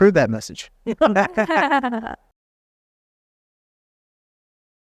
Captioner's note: all laughing